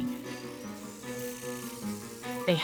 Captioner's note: mechanical whirring